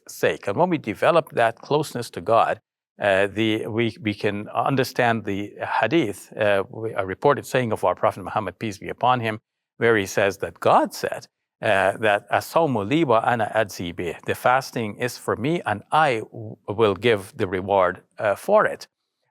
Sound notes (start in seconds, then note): 11.6 speaking in foreign language